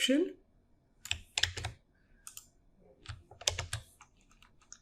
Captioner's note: keyboard keys clicking